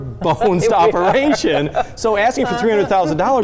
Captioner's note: chuckling